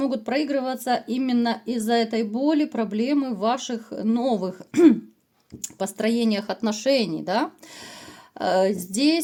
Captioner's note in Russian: откашливается